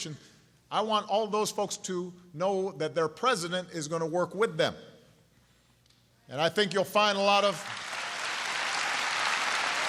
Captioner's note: applause